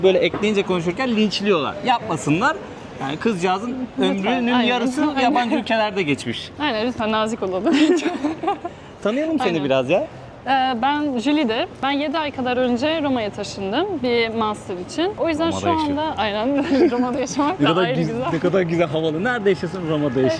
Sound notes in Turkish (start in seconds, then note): 7.6 kahkaha; 16.5 kahkaha